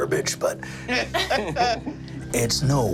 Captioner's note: group laughing